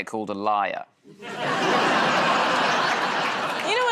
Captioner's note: laughter